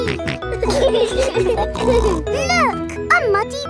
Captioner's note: laughing